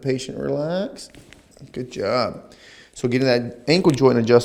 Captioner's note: joint pops